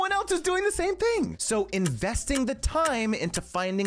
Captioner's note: clock ticking